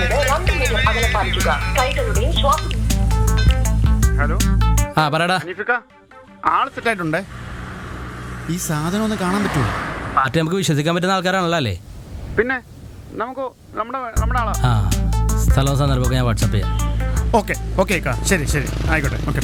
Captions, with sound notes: (RINGTONE) Hello Hanif We think we have a lead We want to see the product Can we trust the party We know him personally I will message you time and place Ok